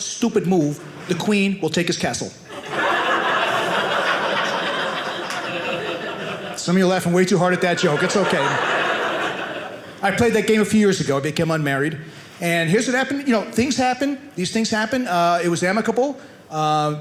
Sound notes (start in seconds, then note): 2.5 audience laughing; 8.8 audience laughing